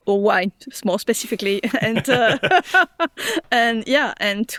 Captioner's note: laughs